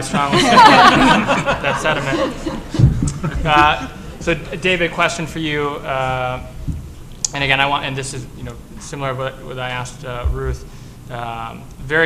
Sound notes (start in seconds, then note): 4.7 laughter